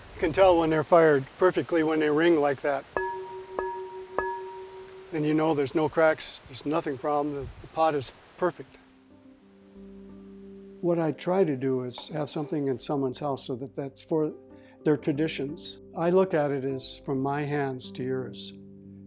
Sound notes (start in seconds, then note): 0.3 ring!; 2.9 3 resonant rings